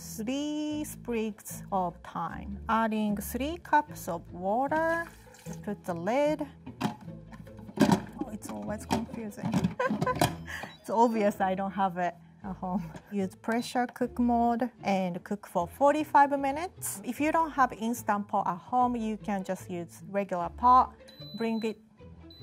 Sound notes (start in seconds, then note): 9.7 laughing; 21.0 Instant Pot beeping